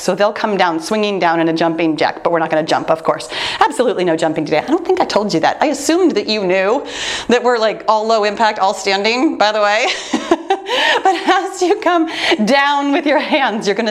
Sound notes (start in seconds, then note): 9.9 laughs